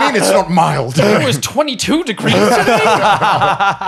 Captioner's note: laughing